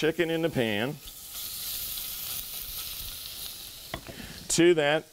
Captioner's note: sizzling